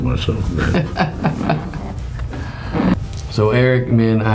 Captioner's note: laughs